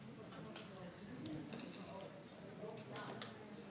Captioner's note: faintly speaking